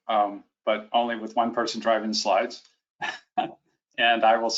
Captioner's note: chuckles